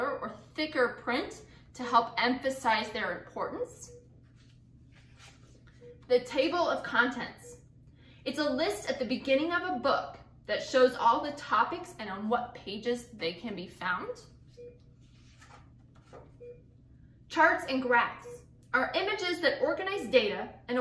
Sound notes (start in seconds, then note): 14.5 beeping